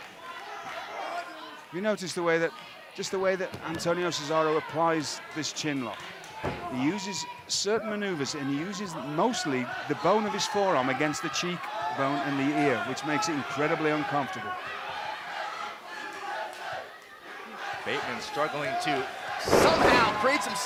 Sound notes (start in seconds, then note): 14.4 crowd cheering